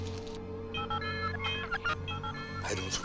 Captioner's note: beeping